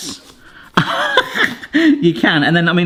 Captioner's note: laughing